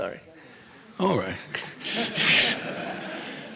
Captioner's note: people laughing